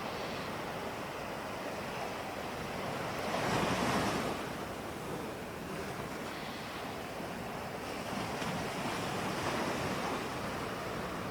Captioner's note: breathing